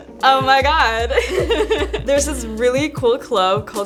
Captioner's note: laugh